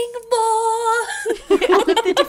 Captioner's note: laughing